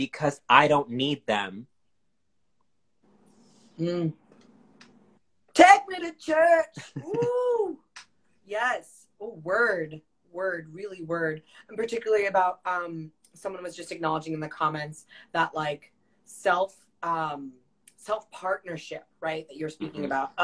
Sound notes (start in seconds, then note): 6.8 laughs